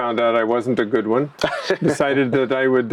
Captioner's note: laughs